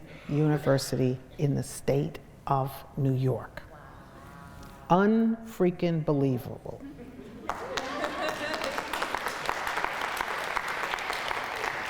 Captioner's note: crowd cheers